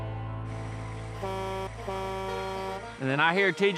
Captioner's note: truck's horn honking